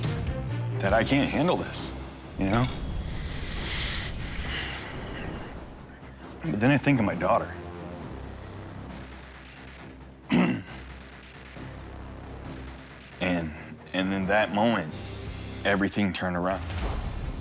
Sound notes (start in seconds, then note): 10.3 clears throat